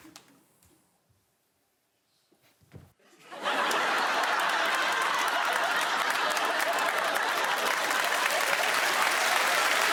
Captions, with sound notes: Jenny's off the mark. Now Ivo. [laughter]